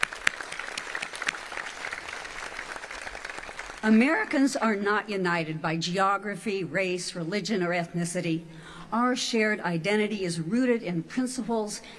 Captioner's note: applause